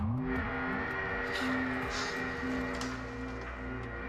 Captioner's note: alarm wailing